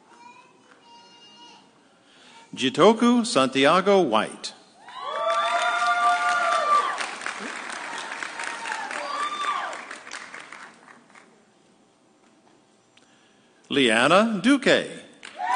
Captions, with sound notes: Jitoku Santiago White. (audience cheering) Leanna Dukay.